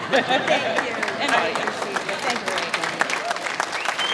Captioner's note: speaking off microphone; clapping